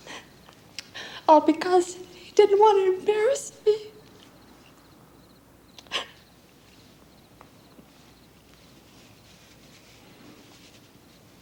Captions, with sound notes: didn't want to embarrass me. [sobbing]